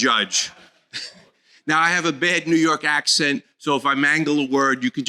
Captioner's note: laughter